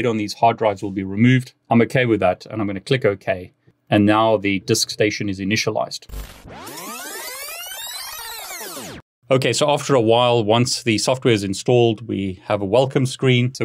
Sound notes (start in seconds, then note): 6.2 disc winding